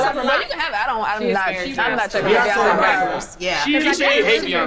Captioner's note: group arguing